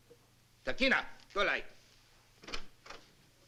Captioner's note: non-english speech